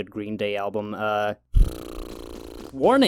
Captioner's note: blows raspberry